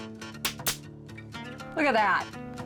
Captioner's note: stapling